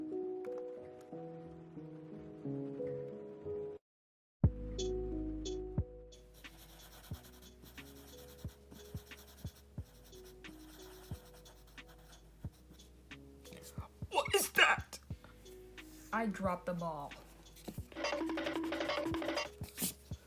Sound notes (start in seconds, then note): 13.1 strained; 17.9 cartoon running sound effect